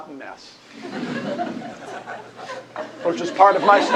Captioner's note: laughter